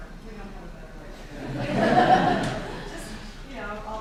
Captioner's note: laughing